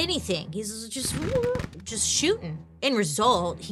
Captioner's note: gunfire exploding